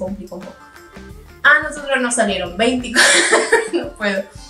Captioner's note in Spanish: risas